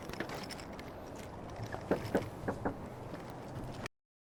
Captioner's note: knocks on door